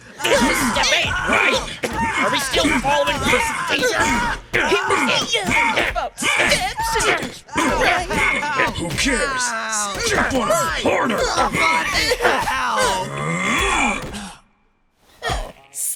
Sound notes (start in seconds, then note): 11.6 Subaru Screaming